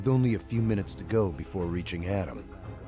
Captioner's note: voiceover